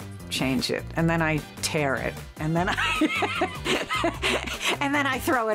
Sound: laughs

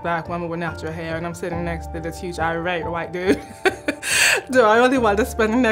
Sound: laugh

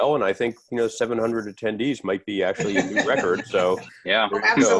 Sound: laughter

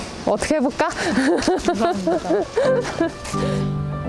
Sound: embarrassed laugh

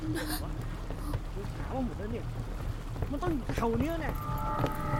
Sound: Malay Language

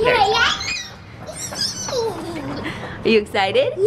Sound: screams

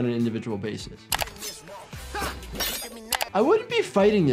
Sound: knife slashes; man grunts

